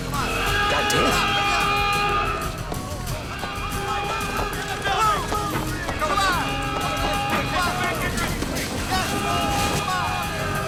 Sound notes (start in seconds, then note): 2.9 alarm wails; 2.9 overlapping chattering